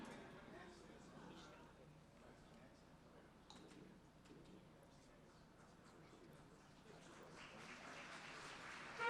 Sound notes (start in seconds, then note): 0.0 background Talking; 6.6 applause